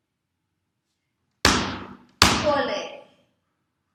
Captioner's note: stomp stomp